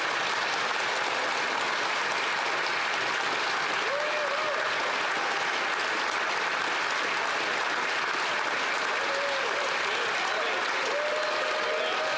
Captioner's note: applause